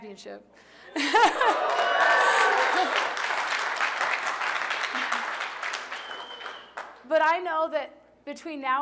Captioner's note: laughter; applause